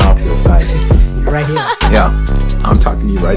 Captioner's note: laughing